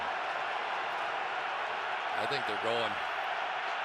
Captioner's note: cheers